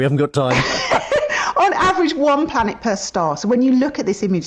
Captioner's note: laughs